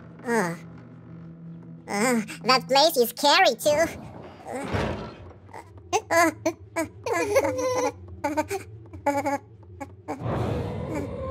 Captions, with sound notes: That place is scary too. *scared noises*